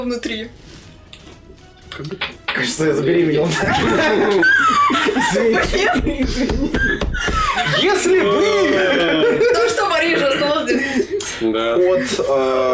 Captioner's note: laughing